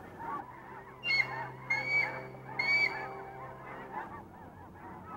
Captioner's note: birds squawking